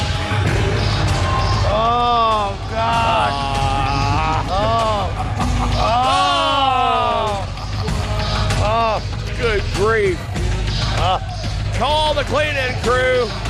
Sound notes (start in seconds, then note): 3.8 groaning